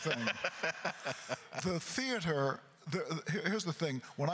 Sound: laughing

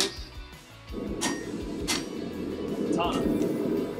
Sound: metal clanking

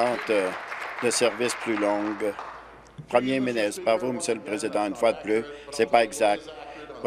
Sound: applause

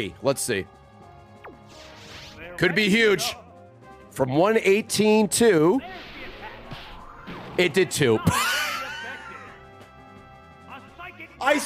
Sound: laughs

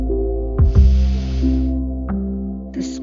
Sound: deep breath

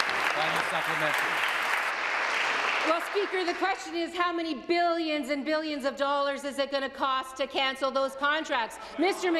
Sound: applause

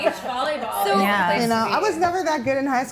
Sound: women agreeing

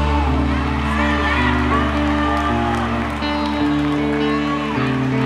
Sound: audience cheers

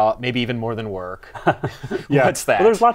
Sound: laughter

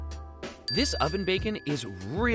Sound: dings

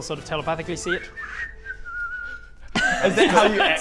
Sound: innocent whistling

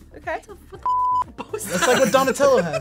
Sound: laughs

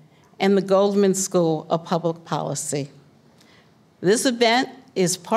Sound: none

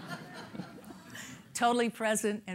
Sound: laughter

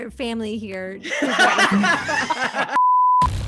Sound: laughter

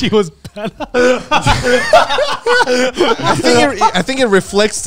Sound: all laughing

